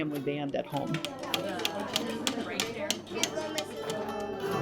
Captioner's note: students chatting; hammer rapping; dulcimers strumming